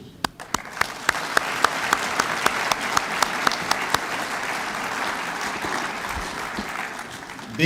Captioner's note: applause